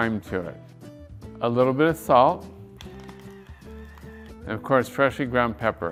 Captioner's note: device whirring